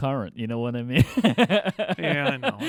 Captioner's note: both laughing